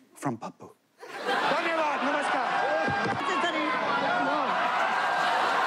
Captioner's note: shouting; speaking foreign language